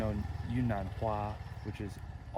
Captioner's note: Mandarin